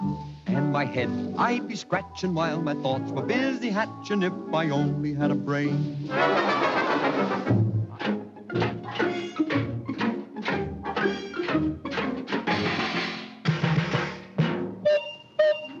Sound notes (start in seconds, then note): 7.8 Tin Man clanking; 13.0 metallic drumming; 14.8 steam whistle blowing